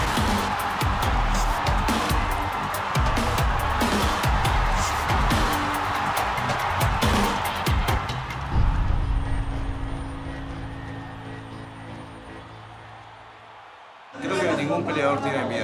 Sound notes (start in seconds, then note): 2.2 cheering continues